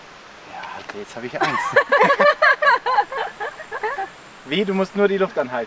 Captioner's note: laughter